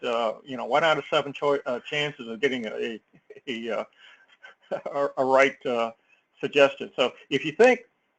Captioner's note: laugh